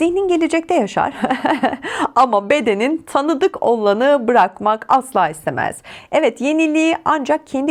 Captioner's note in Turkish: kahkaha